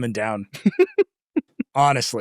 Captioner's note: laughing